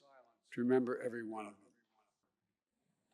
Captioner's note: A moment of silence is observed